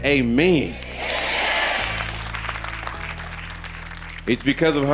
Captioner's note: audience applauding